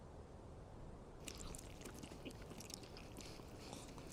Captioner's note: both slurping